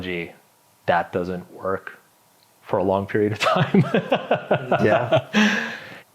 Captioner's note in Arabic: يضحك